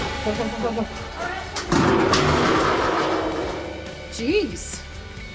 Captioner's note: shudders; metal clanks